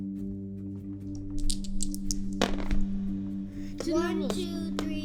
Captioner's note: soundbite of dice being rolled